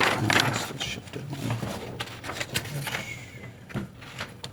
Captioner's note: speaking faintly